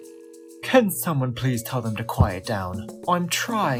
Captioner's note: with a british accent